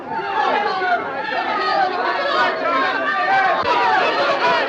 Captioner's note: group shouting